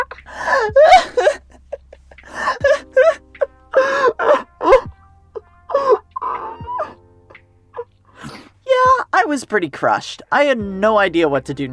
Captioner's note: sobbing